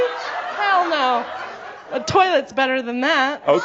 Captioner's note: more chuckles